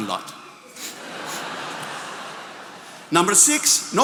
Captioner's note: attendees applauding